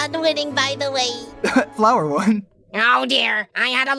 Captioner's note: laughs